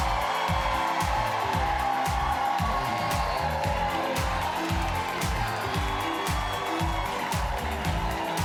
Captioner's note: cheers and applause